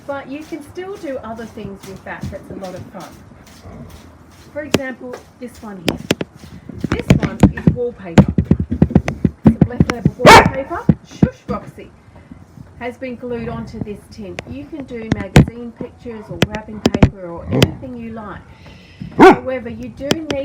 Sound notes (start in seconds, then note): 10.2 dog barks